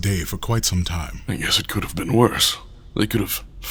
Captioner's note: sarcastic